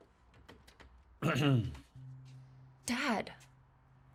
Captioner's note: clears throat